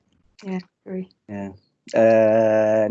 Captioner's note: audience Muttering In Agreement